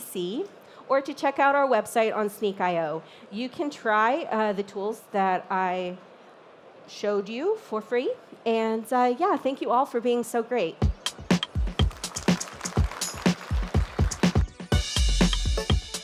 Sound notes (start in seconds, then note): 11.7 applause